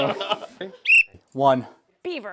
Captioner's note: whistle